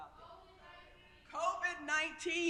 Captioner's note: crowd